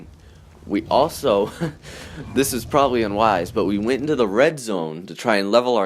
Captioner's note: laughs